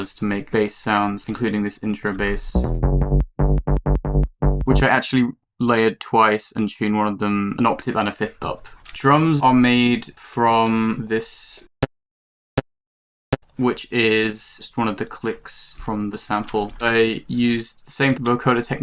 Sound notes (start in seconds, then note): 11.5 clipped-sounding wet click